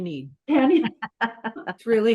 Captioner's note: laughter